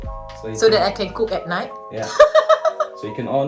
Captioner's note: laugh